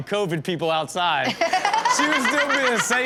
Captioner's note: everyone laughs